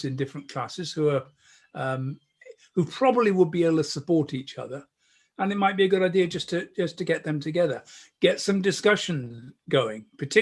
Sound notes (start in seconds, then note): none